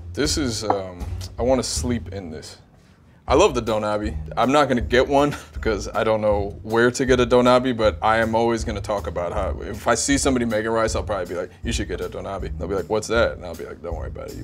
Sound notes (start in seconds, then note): 5.2 laughs